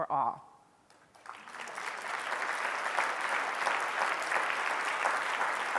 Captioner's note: audience applause